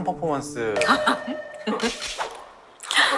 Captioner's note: laughs